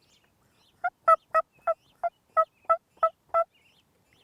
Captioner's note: turkey calling